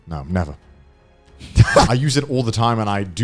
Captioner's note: laughing